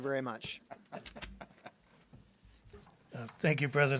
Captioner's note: board members giggling